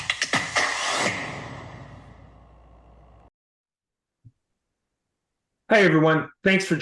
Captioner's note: screen swooshes